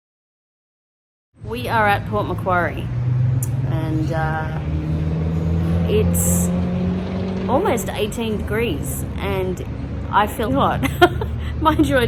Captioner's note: scoffs